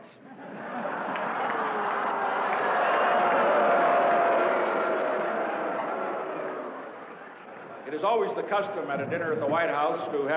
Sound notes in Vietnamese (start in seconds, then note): 0.2 Tiếng cười; 4.1 Tiếng đám đông